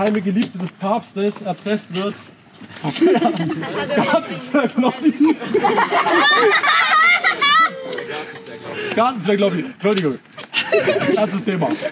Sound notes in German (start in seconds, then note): 6.5 Lachen